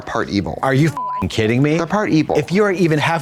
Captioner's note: beep